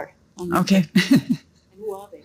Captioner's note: laughs